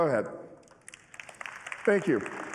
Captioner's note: applause